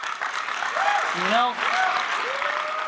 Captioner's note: clapping and cheering